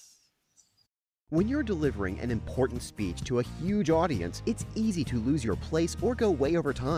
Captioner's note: voiceover